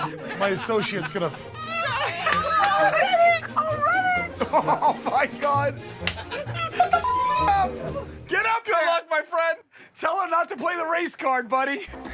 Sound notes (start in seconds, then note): 0.0 laughing